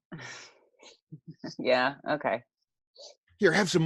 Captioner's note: laughs